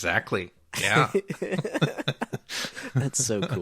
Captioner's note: laughing